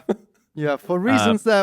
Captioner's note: laughs